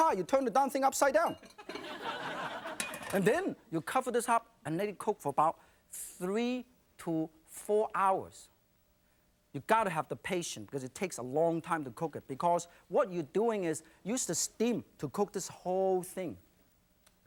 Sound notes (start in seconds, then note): 1.7 audience laughs